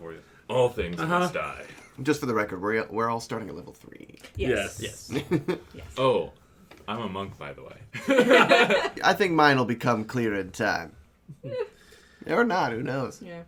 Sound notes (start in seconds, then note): 5.1 chuckles; 7.9 laughter